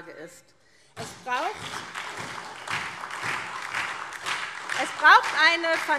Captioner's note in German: Beifall SPD und DIE LINKE